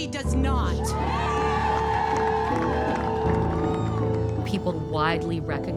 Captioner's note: crowd cheers